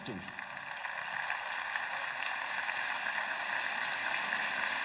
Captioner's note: audience applauds